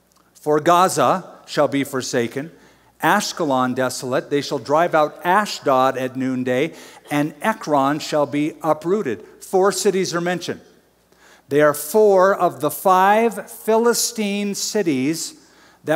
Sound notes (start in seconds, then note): none